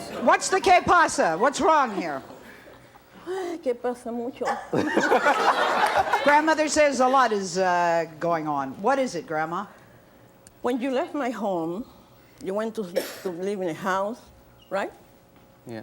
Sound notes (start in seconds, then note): 4.7 audience laughs